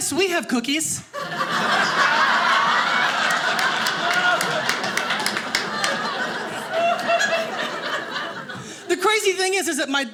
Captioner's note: audience laughing